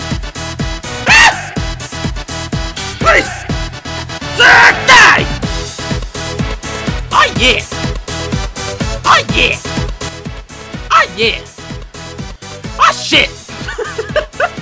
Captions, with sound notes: *Screams* Please! Slaaaam- DIE! Aw yea! Aw yea! Aw yeah! Aw Shit! *Laughing*